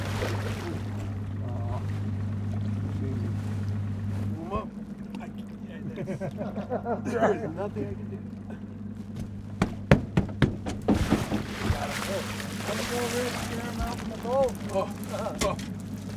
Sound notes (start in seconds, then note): 0.0 boat engine idling; 0.0 fish splashing; 5.6 laughing; 9.5 stomping; 10.8 fish splashing